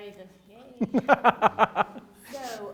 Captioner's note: laughs